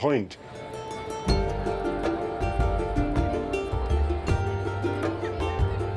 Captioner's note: indistinct chatter; gentle instrumental music